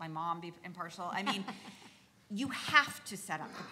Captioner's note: laughs